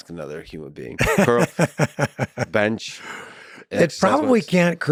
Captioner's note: laughs